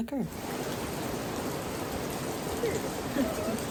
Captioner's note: rain sounds